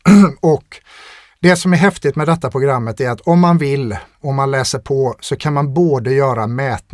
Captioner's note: clears throat